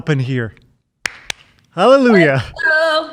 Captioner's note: clapping